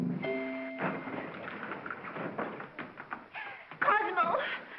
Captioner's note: whimsical music; doors clatter open